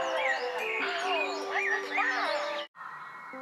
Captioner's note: groans in pain